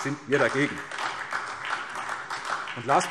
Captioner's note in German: Beifall SPD